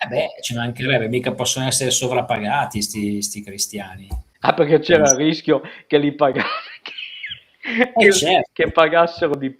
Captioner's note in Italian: risate